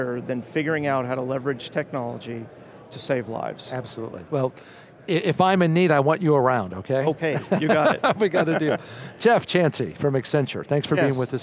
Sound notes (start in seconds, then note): 7.3 laughing